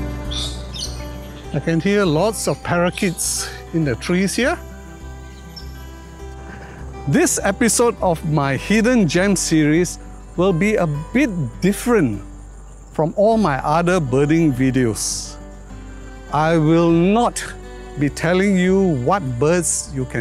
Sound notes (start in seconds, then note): 1.0 birds chirping